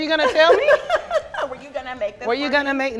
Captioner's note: laughs